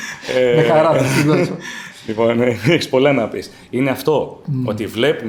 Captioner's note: laughs